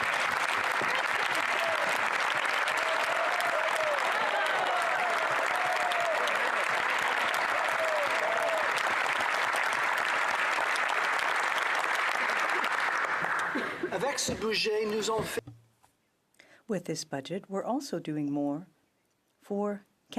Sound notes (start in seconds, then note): 4.0 applause